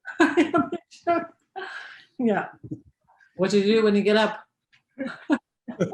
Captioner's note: laughs